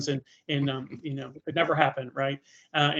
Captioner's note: chuckling